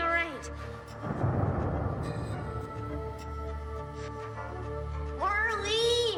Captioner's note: thunder rumbling over eerie electronic music